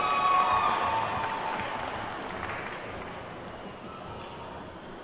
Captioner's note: attendees whooping and clapping